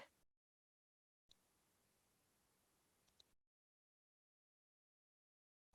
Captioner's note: mouse clicking